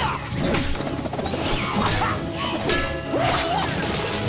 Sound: grunting

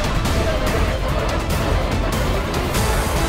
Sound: grunting

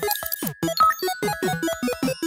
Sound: glitchy typing; chirpy, 8-bit style music; UI beep

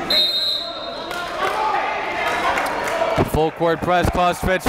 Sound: whistle blows

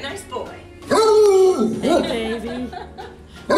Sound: dog howling

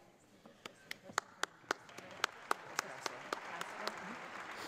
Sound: audience applauds

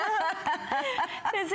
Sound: laughter

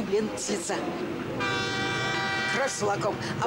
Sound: train whistle

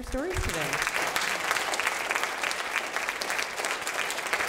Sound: group applause

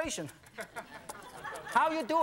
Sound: audience laughing

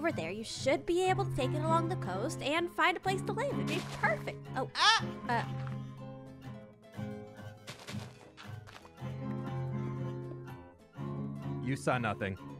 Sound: fwhip

